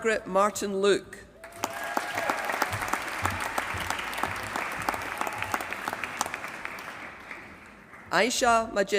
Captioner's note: applause